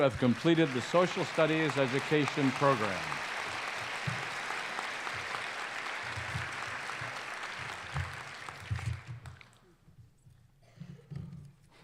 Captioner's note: applause